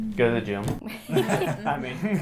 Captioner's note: laughs